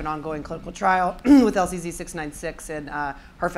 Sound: clearing throat

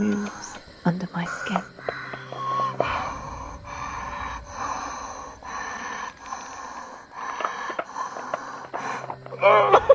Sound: laboured breathing

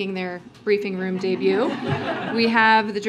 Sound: laughter

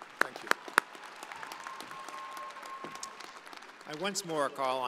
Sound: audience applauding

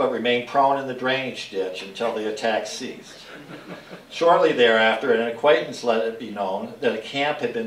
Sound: laughter

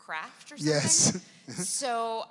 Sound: laughs

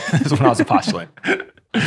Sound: friars laughing

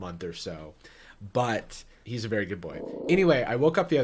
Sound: dog growling

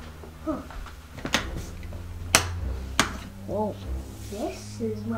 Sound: light switch clicking

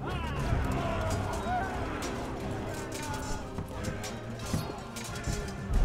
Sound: army chanting, swords clinking

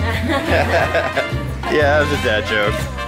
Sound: group laughs

